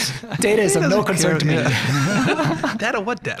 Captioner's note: all laughing